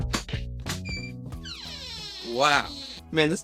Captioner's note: door squeaks